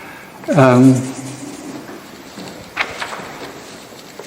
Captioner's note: pages rustling